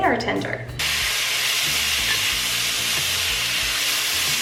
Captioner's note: pan sizzling